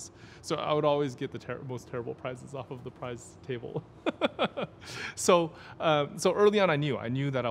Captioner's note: laughing